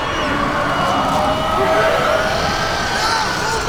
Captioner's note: demon screeching